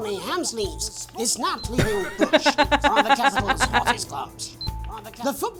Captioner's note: laughs